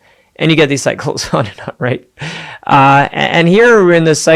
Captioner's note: giggling